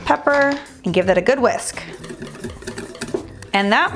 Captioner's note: whisk rattling